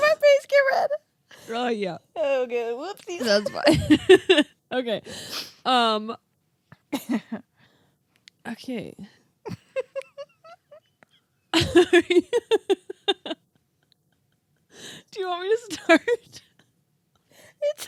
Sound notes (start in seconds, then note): 7.0 laughing; 11.5 laughing